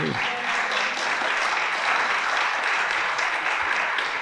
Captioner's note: audience applauding